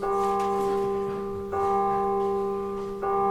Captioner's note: bong! Bong! Bong! Bong! Bong! Bong!; bong! Bong! Bong! Bong! Bong! Bong! Bong!; bong! Bong! Bong! Bong! Bong! Bong! Bong! Bong!